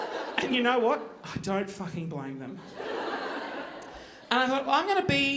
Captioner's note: audience laughing